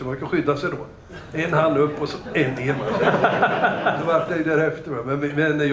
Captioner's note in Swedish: Skratt